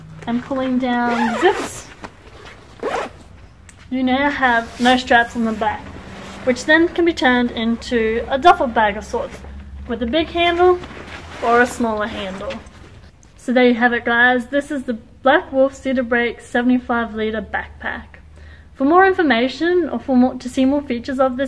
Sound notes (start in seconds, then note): 2.4 zipping